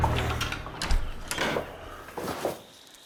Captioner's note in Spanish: Ruido al abrir la puerta